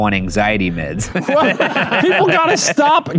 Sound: laugh

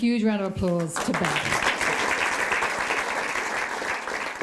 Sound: applause

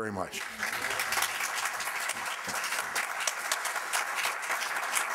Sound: crowd clapping

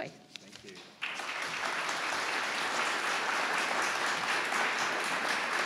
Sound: audience applauding

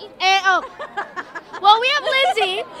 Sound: laughter

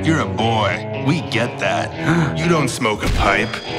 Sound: boy gasps

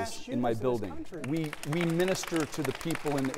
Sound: applause

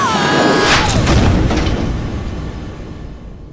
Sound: crash

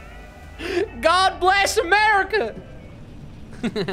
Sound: country accent

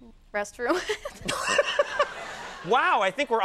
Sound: laughing

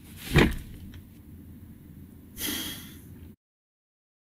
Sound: sigh

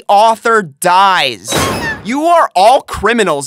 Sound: slam

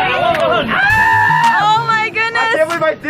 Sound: spectator screaming

